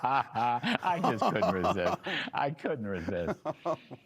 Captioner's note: laughter